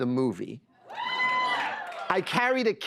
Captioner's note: cheers and applause